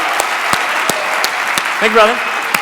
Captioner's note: audience applause